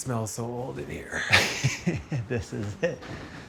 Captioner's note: laughing